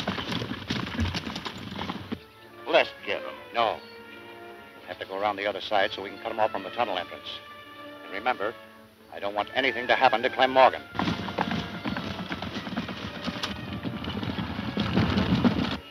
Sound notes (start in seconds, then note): 0.3 horses galloping; 11.5 horses galloping